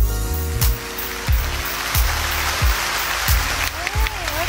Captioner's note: claps